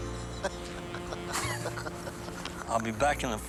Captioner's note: laughs